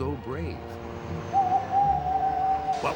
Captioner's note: hooting